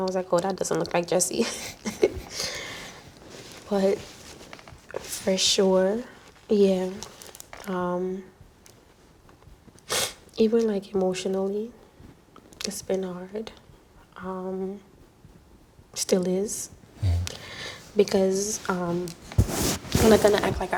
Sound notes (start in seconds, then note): 3.4 laughs; 10.0 sniffs